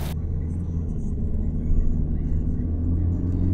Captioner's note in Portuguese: som do carro